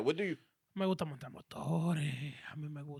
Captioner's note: speaking In Foreign Language